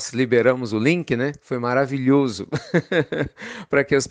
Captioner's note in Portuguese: Risos